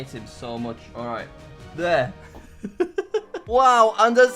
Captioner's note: laughs